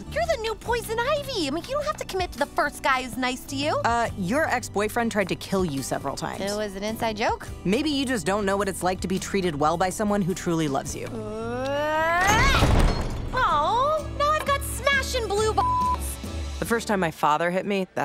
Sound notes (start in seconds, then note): 11.3 Harley Quinn yells; 15.6 beeps